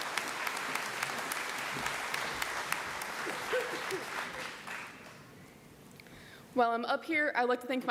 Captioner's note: applause